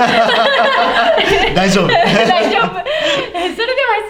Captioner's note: laughs